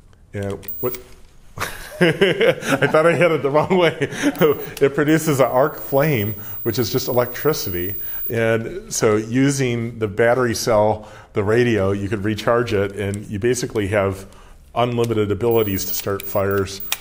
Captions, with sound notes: (laughing) I thought I hit it the wrong way. It produces an arc flame which is just electricity. And so using the battery cell, the radio, you could recharge it and you basically have unlimited abilities to start fires,